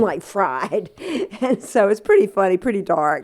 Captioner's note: laughter